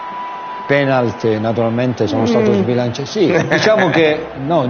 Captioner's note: laughs